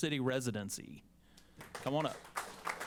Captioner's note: applause